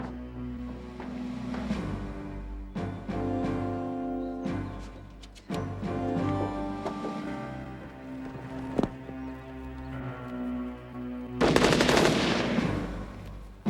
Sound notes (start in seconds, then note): 7.0 gunshots firing